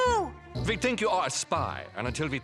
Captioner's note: german accent